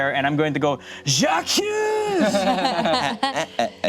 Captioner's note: speaking in foreign language; group laughs